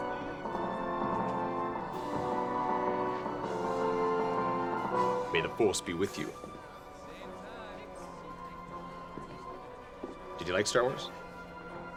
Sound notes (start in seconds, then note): 3.9 deep voice, english accent; 9.6 normal voice